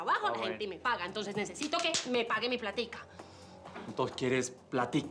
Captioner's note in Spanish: palmadas